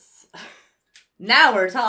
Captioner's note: sighs